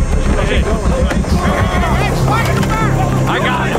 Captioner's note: menacing music; officers shouting